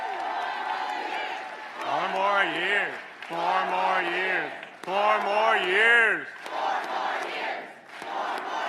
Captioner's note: applause